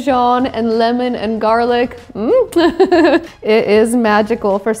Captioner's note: laughs